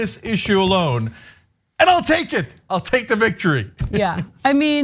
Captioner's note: laugh